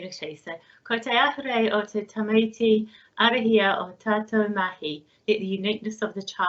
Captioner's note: speaks in Maori